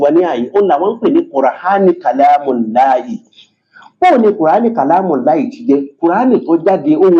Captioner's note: reciting arabic